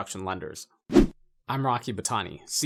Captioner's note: air whooshing